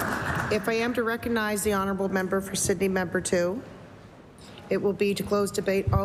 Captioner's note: applause